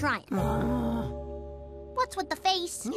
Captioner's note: sighs